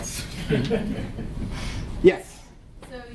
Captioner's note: laughter